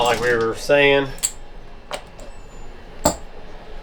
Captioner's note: metal Clanking